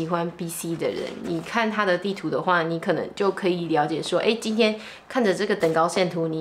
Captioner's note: speaking in foreign language